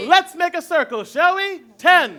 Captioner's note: shuffling and chatter